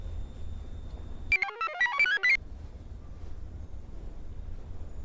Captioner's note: computer chirps